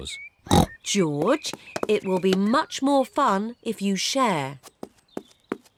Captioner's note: oinks